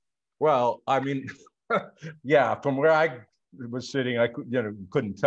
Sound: chuckles

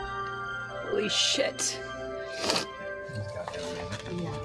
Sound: sniffles

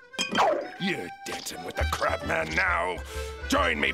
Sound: none

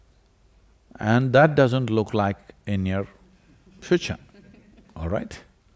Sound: laughter

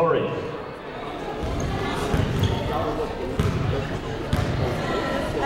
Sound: people talking in the crowd

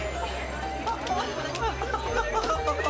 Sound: happy crying

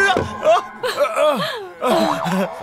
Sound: laughs

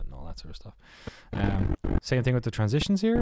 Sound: distortion

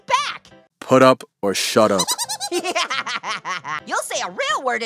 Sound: Marshmallow & AO giggling

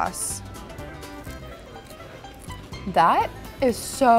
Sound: chewing loudly

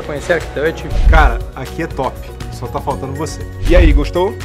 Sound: speaking portuguese

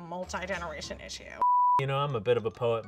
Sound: beep

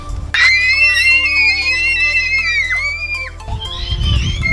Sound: girls scream excitedly

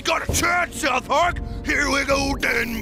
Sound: chanting

